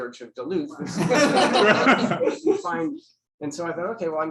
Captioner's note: laughter